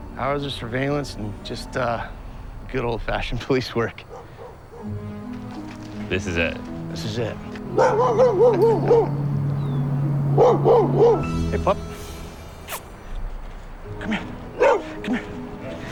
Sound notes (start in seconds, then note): 7.6 barking; 12.6 smooches